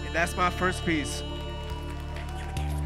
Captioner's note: audience applauding